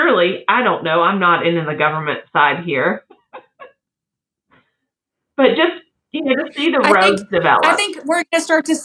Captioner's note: laugh